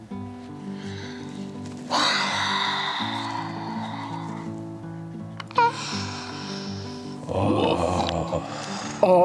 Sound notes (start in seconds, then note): 1.9 exhales